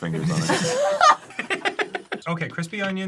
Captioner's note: laugh